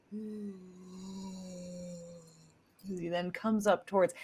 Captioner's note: imitates slow motion sound